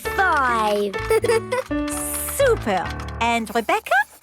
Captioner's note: giggles